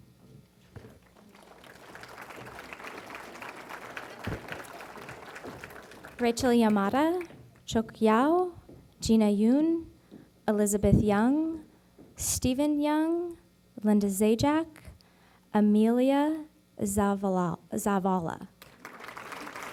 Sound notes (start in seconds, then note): 0.8 applause